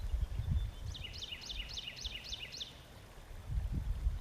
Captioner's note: birds chirping